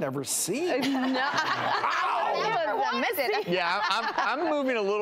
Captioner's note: laughing